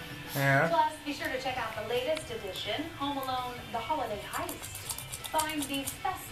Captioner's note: TV playing in the background